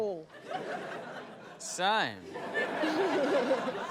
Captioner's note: laughter